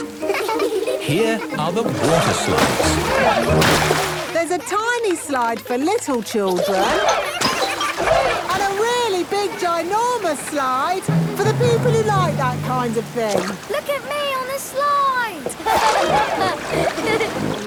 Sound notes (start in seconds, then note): 2.7 laughing; 14.6 laughing